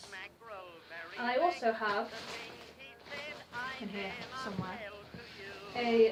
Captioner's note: russleing